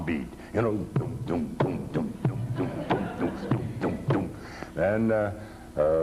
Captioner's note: farmer imitates the tom-tom beat